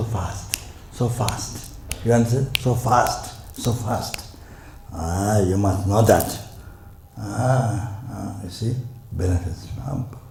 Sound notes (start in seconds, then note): 4.0 snaps his fingers